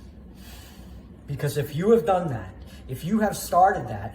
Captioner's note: deep breath